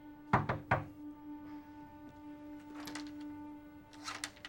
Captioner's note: hand knocking